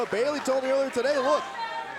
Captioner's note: crowd chatter